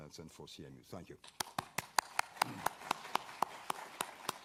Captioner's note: audience applauds